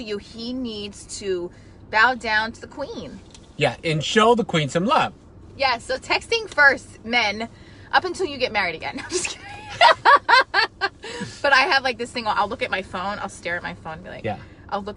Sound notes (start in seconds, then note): 9.0 laughing